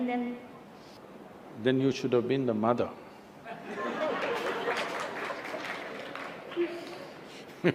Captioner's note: laughter